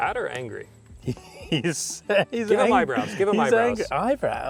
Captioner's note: laughing